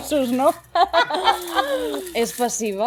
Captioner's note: they laugh